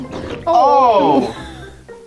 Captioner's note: person whimpering